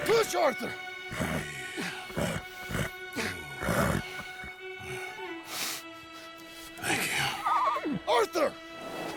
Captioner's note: pats Baldur's head and whispers